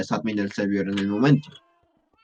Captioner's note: cough cough